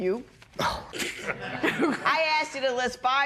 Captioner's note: laughter